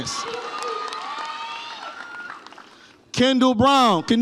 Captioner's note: audience applauds and cheers